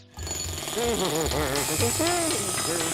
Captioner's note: humming